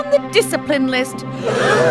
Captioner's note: gasp